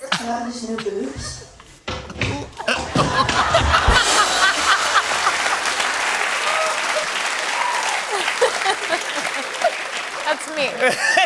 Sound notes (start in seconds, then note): 2.7 laughter and applause